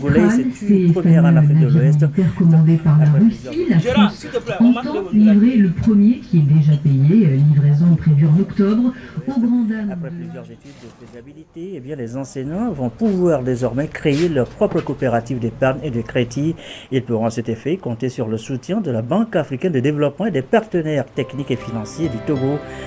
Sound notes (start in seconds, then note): 0.2 radio and TV interference; 5.8 radio and TV interference